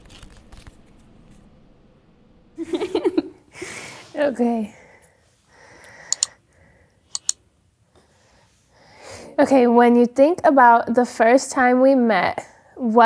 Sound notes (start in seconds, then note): 2.6 giggling; 3.5 sighs